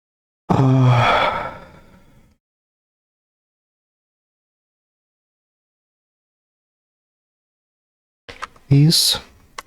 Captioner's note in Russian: вздыхает